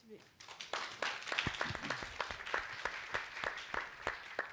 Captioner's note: all applauding